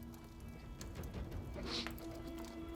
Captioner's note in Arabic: شهقات; طقطقة نار